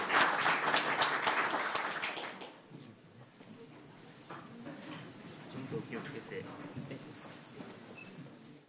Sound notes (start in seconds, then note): 5.6 speaking in foreign language